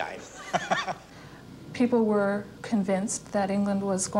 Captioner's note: chuckles